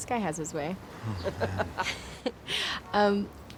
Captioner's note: laughter